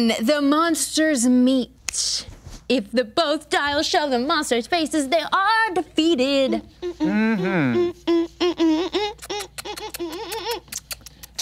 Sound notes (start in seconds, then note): 6.2 woman humming; 8.4 imitating kissing